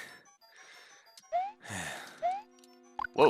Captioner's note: breathing